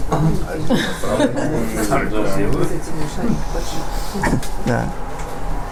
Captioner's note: laughter